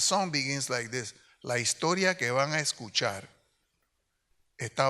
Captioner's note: speaks in Spanish